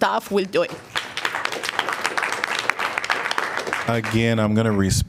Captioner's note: applause